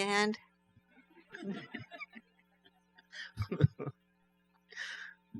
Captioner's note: laughs